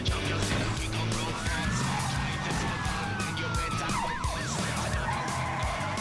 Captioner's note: siren blaring, tires squealing; tires screeching